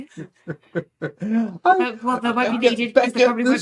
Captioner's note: laughing